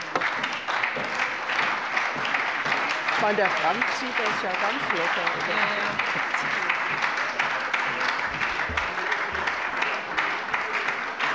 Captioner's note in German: Beifall bei der SPD